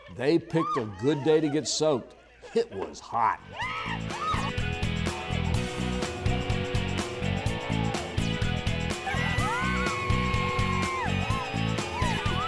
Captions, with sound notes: They picked a good day to get soaked, it was hot! (pop-rock music) (screaming)